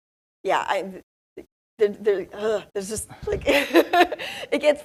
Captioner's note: laughs